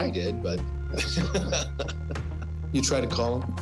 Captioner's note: chuckles